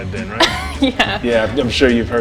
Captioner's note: chuckles